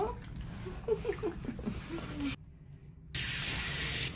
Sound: laughs

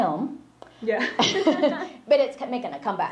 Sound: laughs

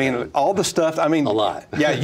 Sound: laughs

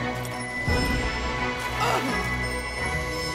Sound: groaning

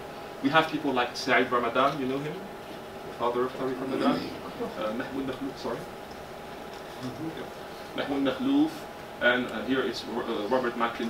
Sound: Arabic

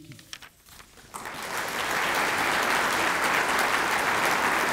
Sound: applause

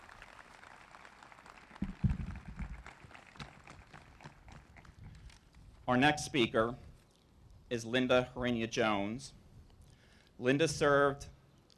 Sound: applause

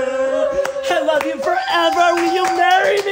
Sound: singers cheer and applaud

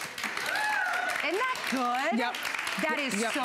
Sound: applause

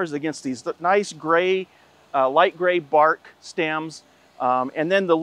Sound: none

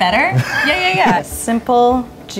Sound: laughing

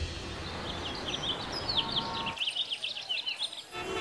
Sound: birds chirping

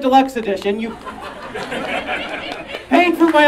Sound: audience laughing

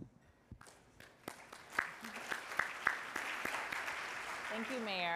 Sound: audience applauding

